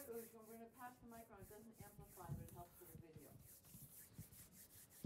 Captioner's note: audience member speaking off-mic